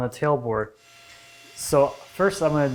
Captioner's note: table-saw whining